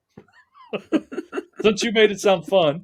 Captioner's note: laughing